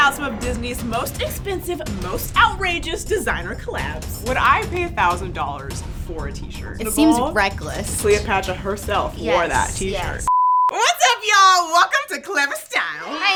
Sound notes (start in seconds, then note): 10.2 beep; 13.0 audience cheering